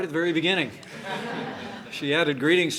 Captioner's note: laughter